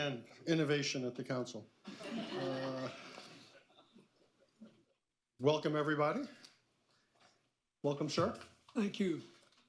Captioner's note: laughter